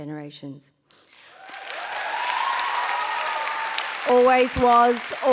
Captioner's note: audience cheering and applauding